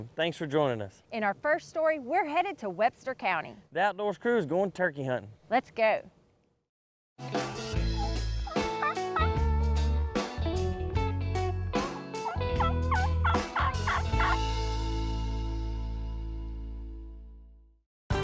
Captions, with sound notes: Thanks for joining us. - In our first story, we're headed to Webster County. - The Outdoors crew is going turkey hunting. - Let's go. (upbeat music) (turkey calling) (upbeat music fading)